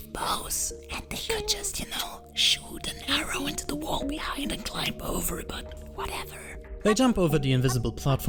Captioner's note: whispering